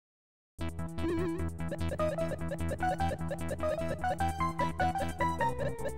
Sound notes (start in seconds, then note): 1.0 electronic sounds; 4.3 jazzy electronica music